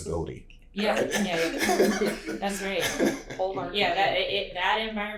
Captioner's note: laughter